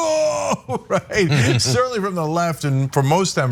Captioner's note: laugh